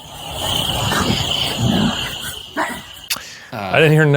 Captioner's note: barking